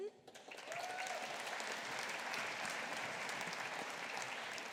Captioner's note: audience applauding